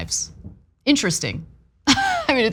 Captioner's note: laugh